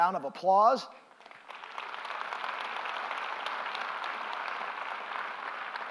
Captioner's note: applause